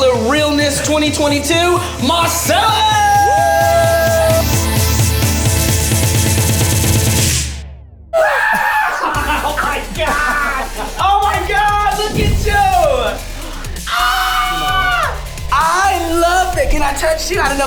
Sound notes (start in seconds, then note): 3.5 energetic music; 8.2 screams in excitement; 13.8 screams